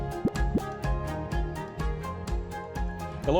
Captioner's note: graphic pops